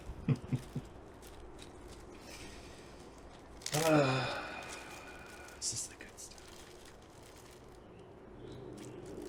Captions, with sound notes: (Patrick chuckles) (exhales) This is the good stuff.